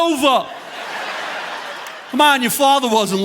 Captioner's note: audience laughing